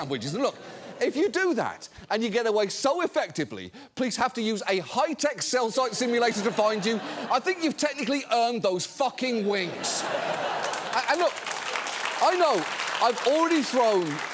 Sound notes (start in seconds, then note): 9.6 studio audience laughs, claps